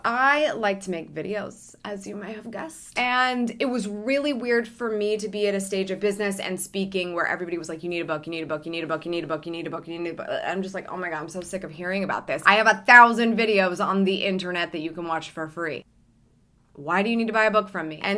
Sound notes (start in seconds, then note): 10.2 stammers